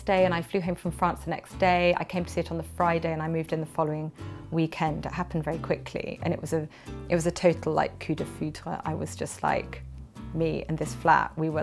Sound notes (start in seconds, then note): 7.6 speaks French language